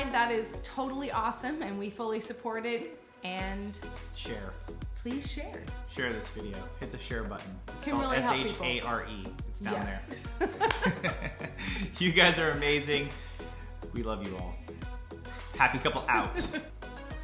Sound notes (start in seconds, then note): 10.1 laughing